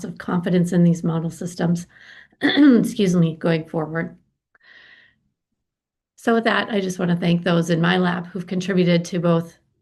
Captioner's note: clears throat